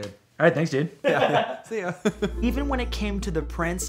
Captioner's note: chuckles